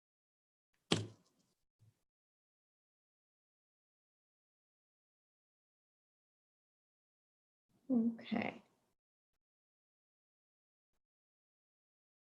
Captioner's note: long pause